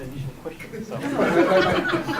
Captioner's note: laughter